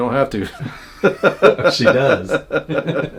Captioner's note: laughing